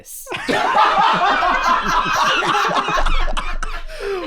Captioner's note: all laughing